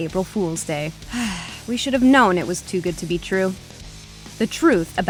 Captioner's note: sigh